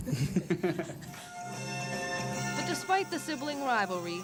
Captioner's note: laughs